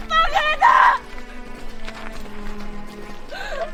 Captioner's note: collapsing from sobbing